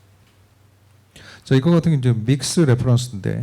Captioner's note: speaking korean